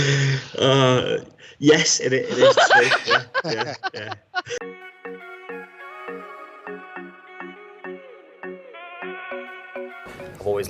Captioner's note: laughing